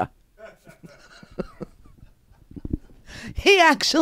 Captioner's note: laughs